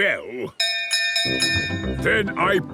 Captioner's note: bell chimes